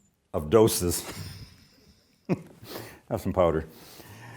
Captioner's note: laughs